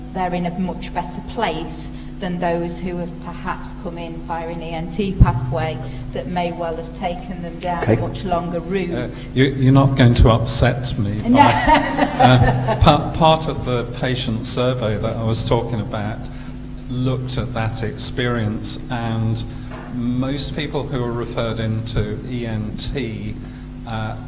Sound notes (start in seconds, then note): 11.3 audience laughter